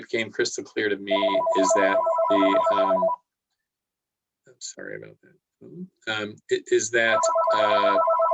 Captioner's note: phone ringing